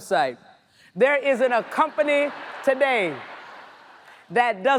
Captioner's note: audience laughs